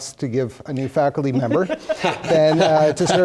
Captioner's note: laugh